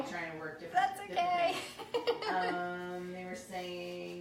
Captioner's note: laughs